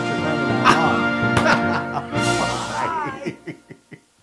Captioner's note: laugh